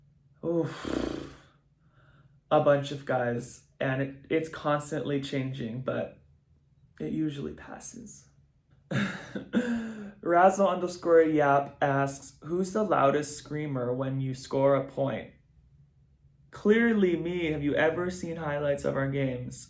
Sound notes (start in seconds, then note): 8.9 chuckles